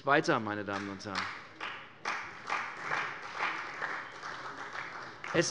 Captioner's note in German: Beifall bei der CDU